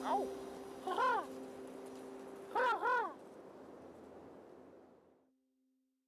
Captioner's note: laughing; man makes crowing noise